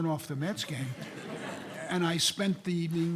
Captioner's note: audience laughing